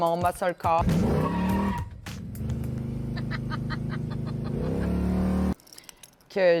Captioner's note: engine noises